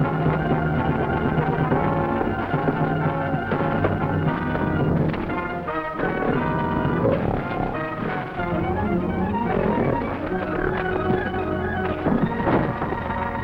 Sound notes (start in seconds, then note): 7.6 gorilla grunting; 7.6 tense music